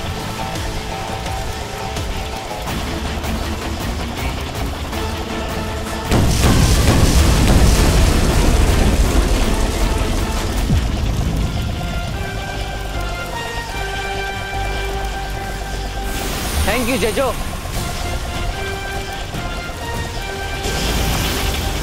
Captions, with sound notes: [gripping music] [bombs exploding] [triumphant music] Thank you! Jejo.